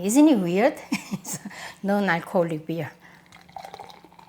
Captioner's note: laughs